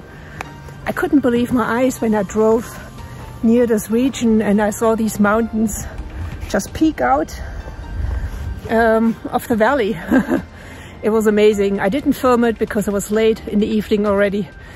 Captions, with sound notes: I couldn't believe my eyes when I drove near this region and I saw these mountains just peek out ... um ... of the valley. [laughs] It was amazing. I didn't film it because it was late in the evening already,